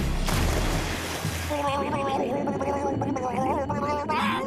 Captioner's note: gurgling